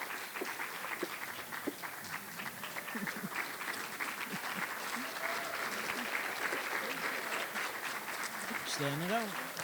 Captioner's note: applause